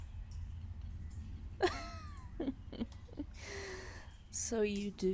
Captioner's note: amused laughter